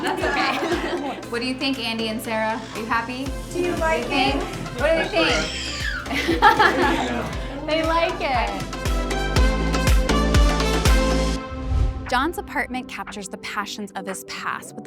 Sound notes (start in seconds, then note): 5.5 birds whistles; 9.6 bright upbeat music